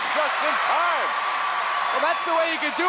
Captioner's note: audience cheers